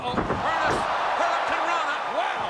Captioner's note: crowd cheering